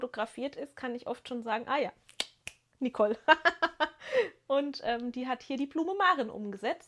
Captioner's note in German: gelächter